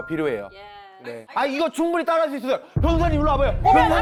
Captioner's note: sound effect: valid point; in a challenging tone